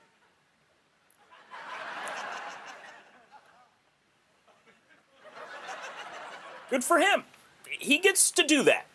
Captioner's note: laughter